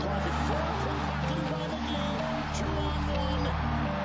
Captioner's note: audience cheering